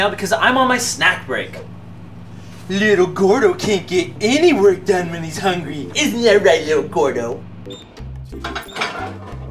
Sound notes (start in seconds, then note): 2.6 babyish voice; 7.5 microwave beeps